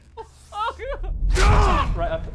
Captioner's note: crying